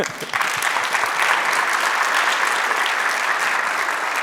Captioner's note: audience applauding